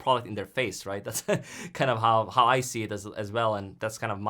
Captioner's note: laughs